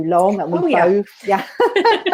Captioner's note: laughter